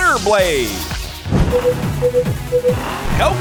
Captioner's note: beeping